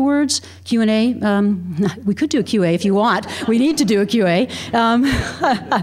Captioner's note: laughter